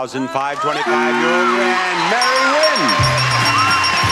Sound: buzzer buzzes; upbeat theme music; audience applauds

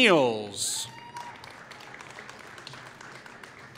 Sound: applause

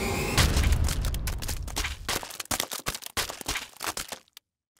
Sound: spaghetti splatting

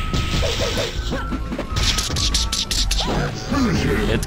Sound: imitates punch SFX because why not

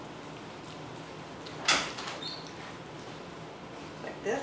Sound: sounds of door opening

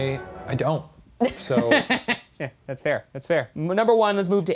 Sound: laughing

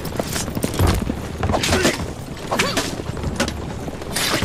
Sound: hidden blade stabbing sound

